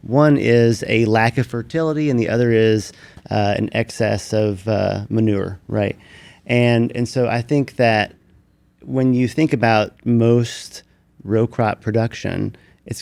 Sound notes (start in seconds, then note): none